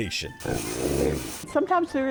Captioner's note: dog growling; water squirting